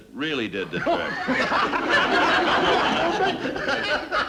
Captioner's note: men laughing